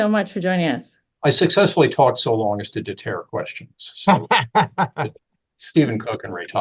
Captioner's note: laughter